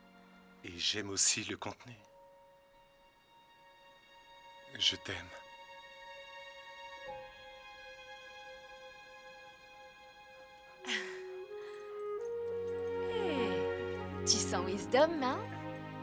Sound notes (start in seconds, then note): 10.8 chuckles